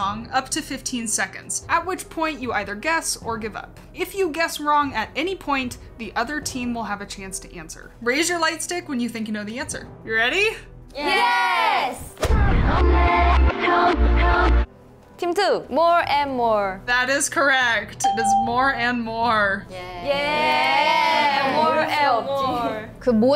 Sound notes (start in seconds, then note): 18.0 ding; 20.2 Team 2 cheers